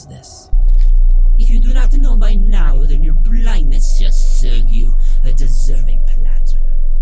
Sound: distorted

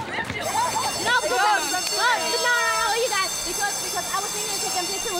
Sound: school bell rings

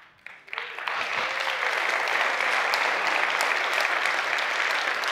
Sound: applause

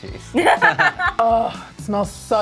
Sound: both laugh

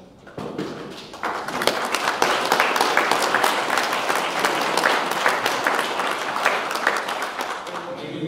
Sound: audience clapping

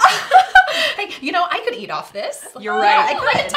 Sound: laughter

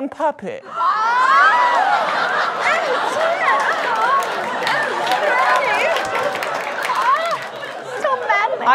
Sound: murmurs of delight

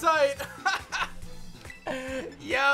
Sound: laughs

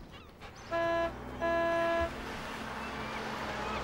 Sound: horn honking

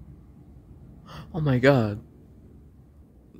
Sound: gasp

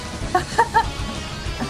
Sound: laughs

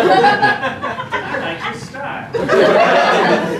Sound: laughter

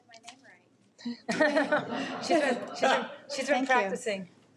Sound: audience laughs

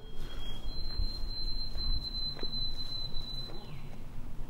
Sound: birds chirping

